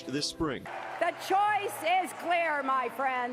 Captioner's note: clapping